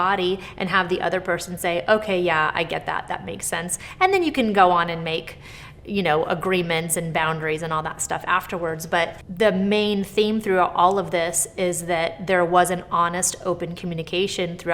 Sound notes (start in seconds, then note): none